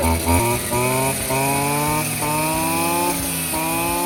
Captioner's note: engine revving